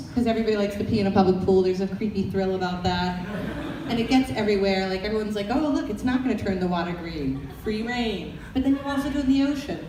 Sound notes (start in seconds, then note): 3.2 audience laughter